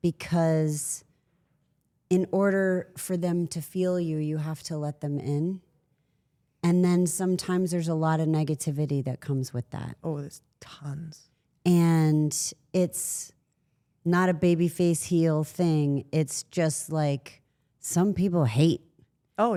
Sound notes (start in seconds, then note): none